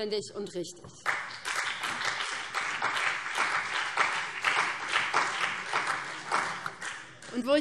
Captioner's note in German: Beifall BÜNDNIS 90/DIE GRÜNEN und vereinzelt CDU